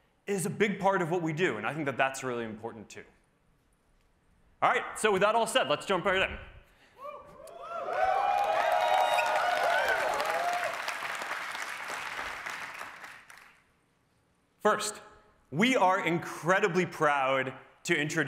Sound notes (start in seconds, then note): 7.0 cheering